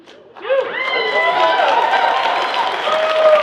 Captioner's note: people cheer